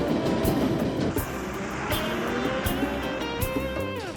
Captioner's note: train roaring; bus engine revving; dramatic music continues